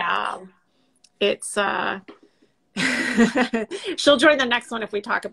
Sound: laughs

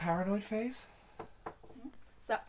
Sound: knocks on the table

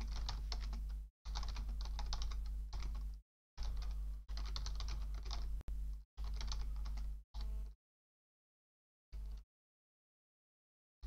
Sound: typing

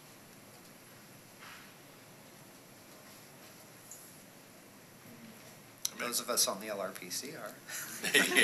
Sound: laughter

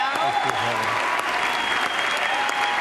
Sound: applause

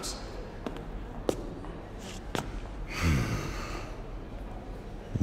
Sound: footsteps approaching

